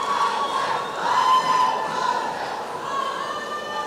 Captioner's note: chanting